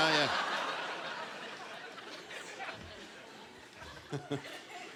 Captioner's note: applause